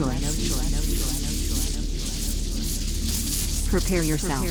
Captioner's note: electricity crackling; voice echoing